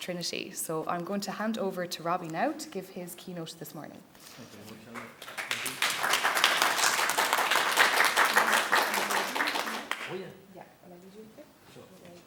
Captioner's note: applause